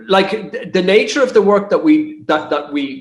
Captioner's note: chuckles